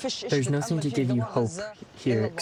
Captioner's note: through translator